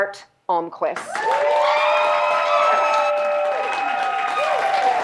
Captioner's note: audience applauding